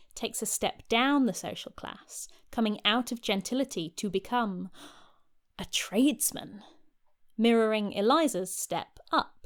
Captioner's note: gasp